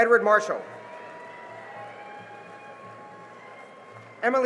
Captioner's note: cheering and applause